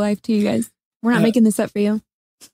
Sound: laughs

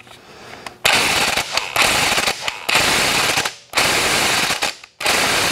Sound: impact gun hammering

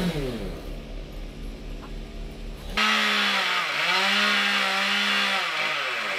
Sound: motor whirring

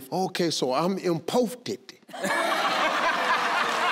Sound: in foreign language; crowd cheering

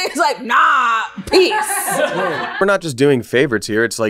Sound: laughter

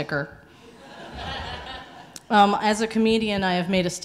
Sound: audience laughing

